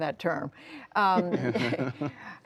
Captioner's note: laughter